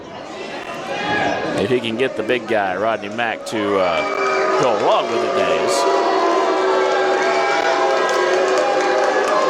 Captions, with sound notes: If he can get the big guy, Rodney Mack to go look, (crowd booing)